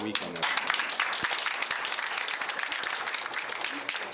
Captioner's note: applause